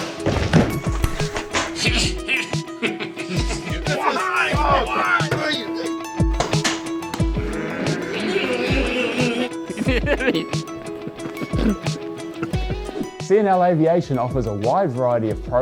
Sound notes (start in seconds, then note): 2.7 men laughing; 4.0 men yelling; 7.1 employees imitating snowmobile sounds; 10.1 laughing